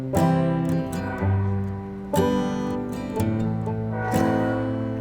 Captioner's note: light music; train sounding